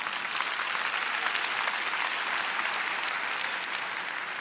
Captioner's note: applauding